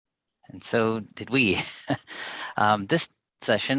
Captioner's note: chuckles